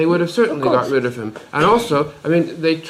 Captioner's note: laughs